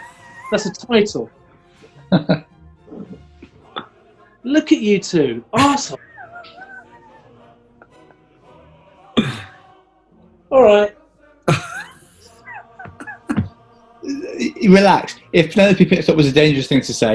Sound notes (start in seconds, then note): 2.0 chuckling; 5.5 laughing; 11.4 giggling